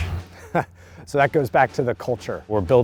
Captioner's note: laughs